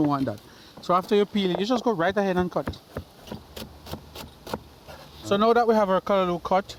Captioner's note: chopping